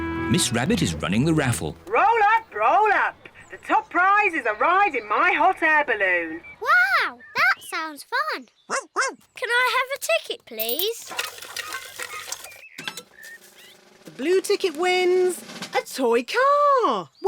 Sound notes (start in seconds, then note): 8.5 barks